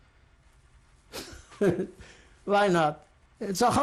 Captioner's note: laughs